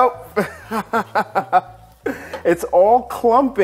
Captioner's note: laughing